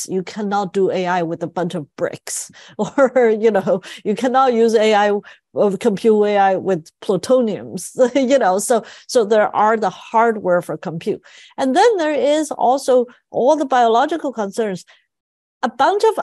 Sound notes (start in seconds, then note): 3.9 laugh